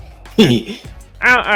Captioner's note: giggles